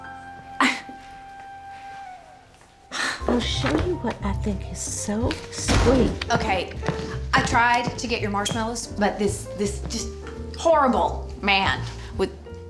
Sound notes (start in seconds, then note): 0.2 scoffs; 5.5 door opens, closes